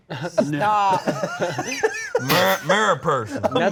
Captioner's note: laughing